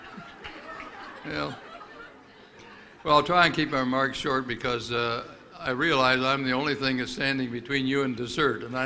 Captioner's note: laughter